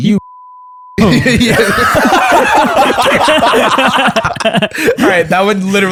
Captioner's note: laughter